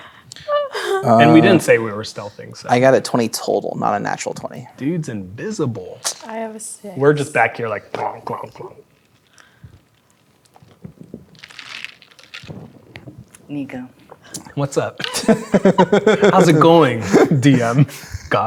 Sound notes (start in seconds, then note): 11.3 ice cubes rattling; 15.0 laughing